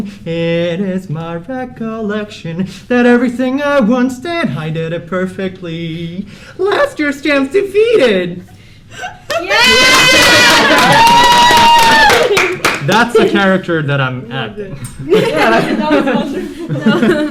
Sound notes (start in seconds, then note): 9.2 cheers, laughter, and claps; 14.8 laughter